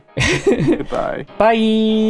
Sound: laughter

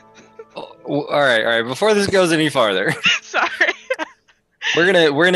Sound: laughs

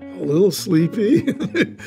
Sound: laughs

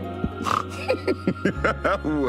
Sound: snorts, Laughter

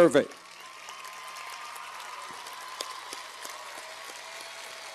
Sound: cheers and applause

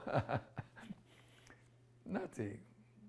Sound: laughs

